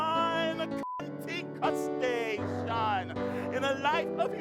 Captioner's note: beep